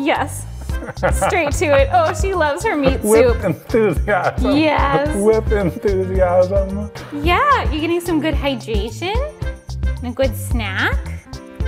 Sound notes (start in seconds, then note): 0.5 laughs; 6.9 baby voice